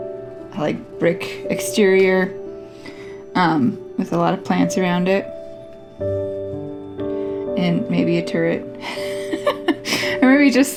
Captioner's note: laugh